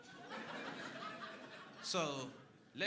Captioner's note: crowd laughing